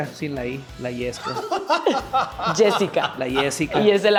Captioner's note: laugh